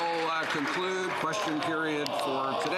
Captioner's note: applause